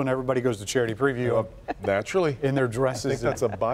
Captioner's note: laughter